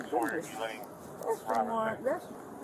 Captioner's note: radio chatter